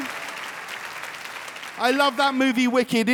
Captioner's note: audience applauding